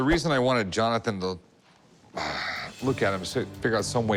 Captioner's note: sighs